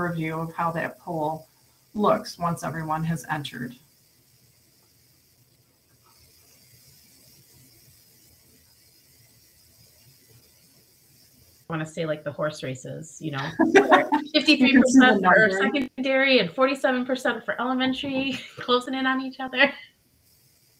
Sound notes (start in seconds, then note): 6.7 audio distorts; 13.4 laughs